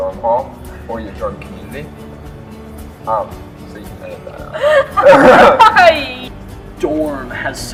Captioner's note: laughter